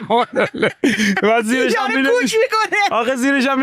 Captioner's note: laughs